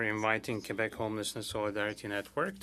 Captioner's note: speaking French